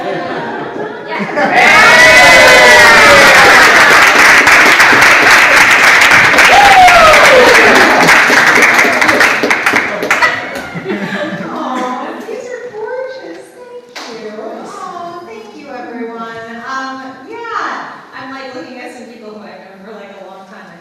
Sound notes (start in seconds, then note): 0.0 audience laughs; 3.6 audience applauds